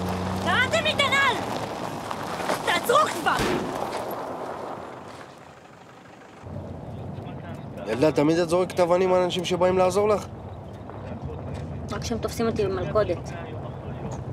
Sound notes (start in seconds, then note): 2.1 rock hitting car